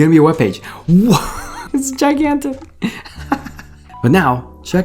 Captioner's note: laughing